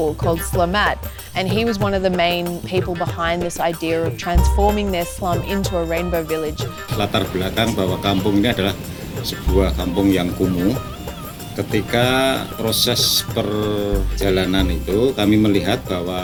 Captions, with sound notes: called Slamet, and he was one of the main people behind this idea of transforming this slum into a Rainbow village. (speaking in foreign language)